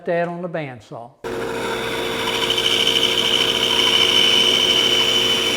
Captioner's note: machine humming